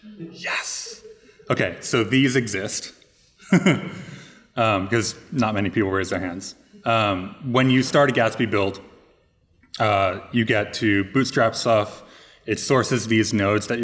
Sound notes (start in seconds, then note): 3.4 laughing